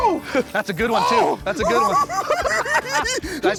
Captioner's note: giggling